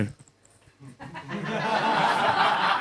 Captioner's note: laughter